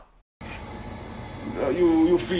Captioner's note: machine roaring